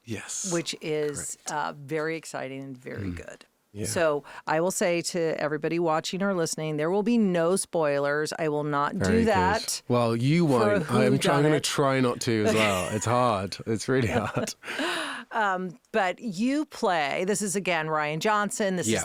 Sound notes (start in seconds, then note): 12.2 interviewer laughing; 15.2 laughing